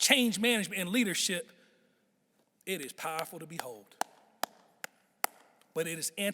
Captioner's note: clapping